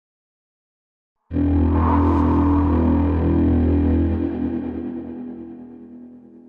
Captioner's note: low electronic sound effects